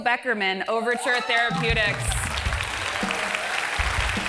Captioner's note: applause